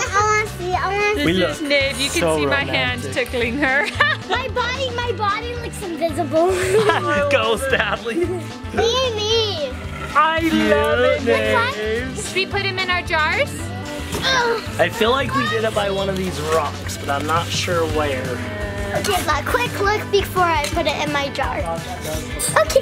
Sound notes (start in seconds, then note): 6.5 dad laughs